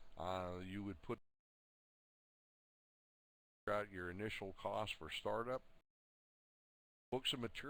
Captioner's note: audio drops